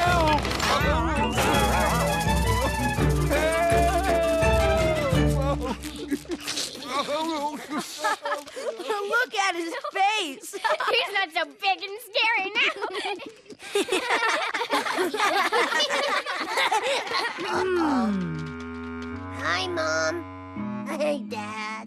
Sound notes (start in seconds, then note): 3.1 sobs; 7.9 laugh; 12.6 laugh